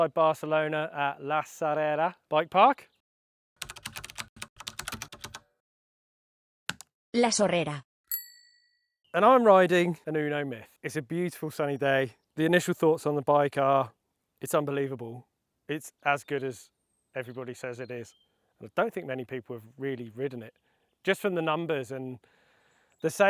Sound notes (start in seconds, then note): 3.6 keyboard clicking; 8.1 bell dings